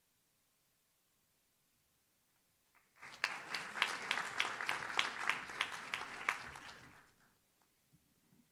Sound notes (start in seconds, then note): 2.7 audience claps